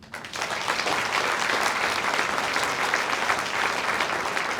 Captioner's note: audience applauds